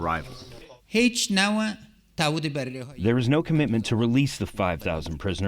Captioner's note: through translator